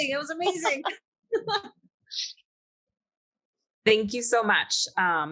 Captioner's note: panelists laughing